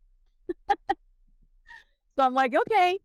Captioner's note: laughs